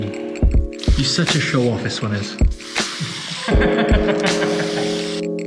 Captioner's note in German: seltsamer Waliser, lacht